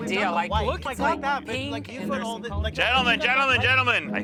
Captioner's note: arguing